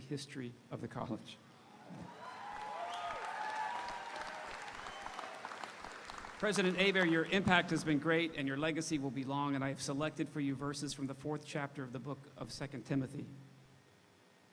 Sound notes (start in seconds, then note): 1.6 audience cheering; 2.0 audience applauding